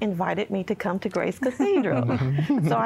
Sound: giggling

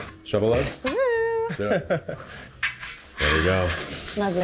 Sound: chuckling

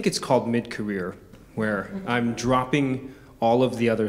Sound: audience chuckling

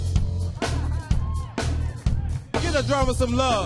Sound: audience cheering

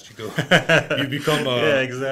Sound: laughs

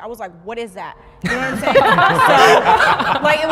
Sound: participants laughing

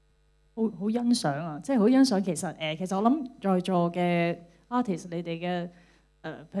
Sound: Cantonese

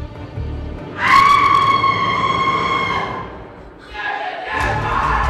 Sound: screaming

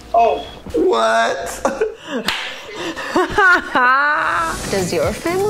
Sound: laughing

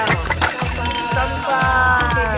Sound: balls drop; all speak Japanese

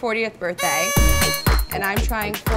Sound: noisemaker blowing

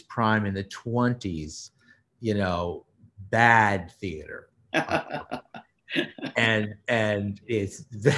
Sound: laughs

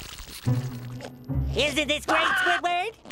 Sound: Squidward screaming

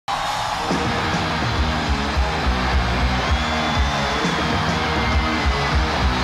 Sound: audience screaming; hard rock music

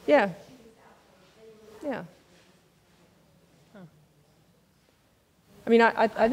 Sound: speaks quietly without mic

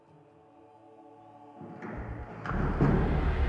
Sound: door closes

